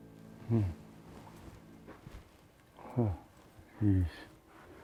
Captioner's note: low under breath